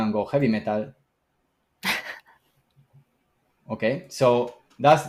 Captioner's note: laughs